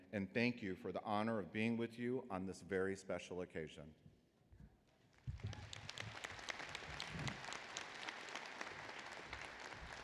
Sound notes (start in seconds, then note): 5.1 applause